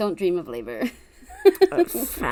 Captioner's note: laughs